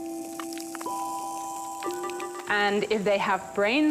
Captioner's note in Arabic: الطنين الميكانيكي